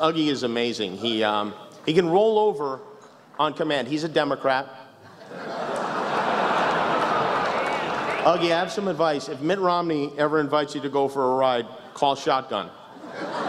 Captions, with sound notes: Uggie is amazing, he can roll over on command. He's a Democrat. [laughter, a whistle] Uggie, I have some advice. If Mitt Romney ever asks you to go for a ride, call shotgun.